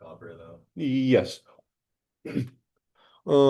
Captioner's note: clears throat